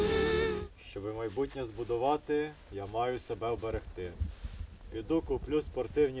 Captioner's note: in Ukrainian